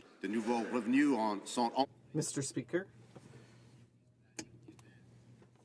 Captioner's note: speaking French